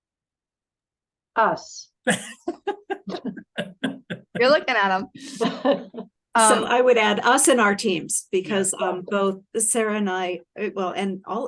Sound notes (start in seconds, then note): 5.0 laugh